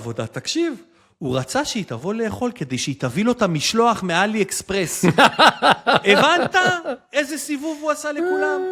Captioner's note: laughter